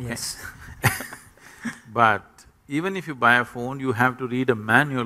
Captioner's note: laughter